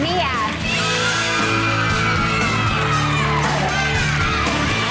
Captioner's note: group cheers